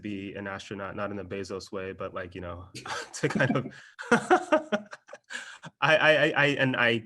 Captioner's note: laugh